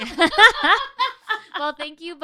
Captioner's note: laughing